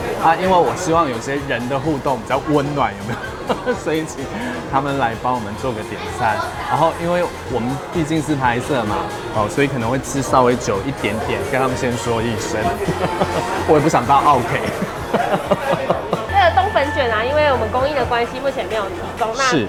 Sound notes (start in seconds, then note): 2.9 laughter; 13.1 laughs